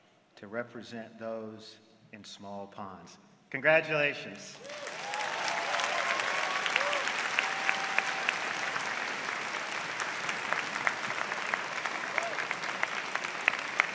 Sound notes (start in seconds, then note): 4.5 applause